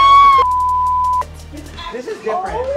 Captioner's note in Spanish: gritos